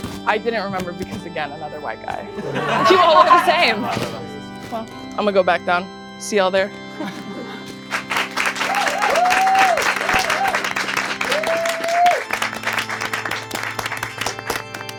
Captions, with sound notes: I didn't remember because again another white guy. You all look the same. I'm gonna go back down. See you all there. (clapping)